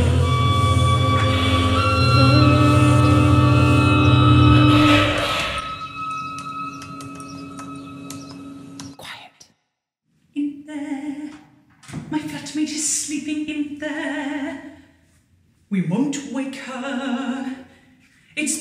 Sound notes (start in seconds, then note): 4.8 distorted vocal sounds and breathing fall away